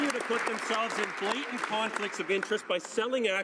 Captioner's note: some Applause